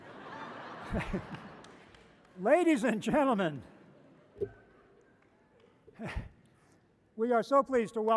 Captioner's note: laughter